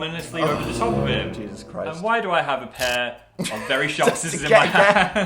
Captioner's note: laughs